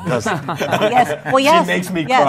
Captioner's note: laughter